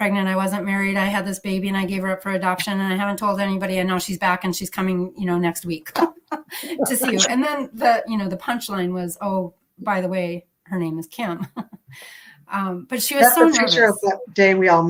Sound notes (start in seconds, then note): 6.0 laughter; 11.9 laughs